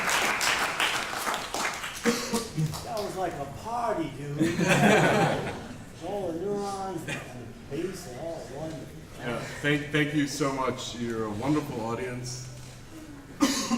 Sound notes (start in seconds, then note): 4.4 laughter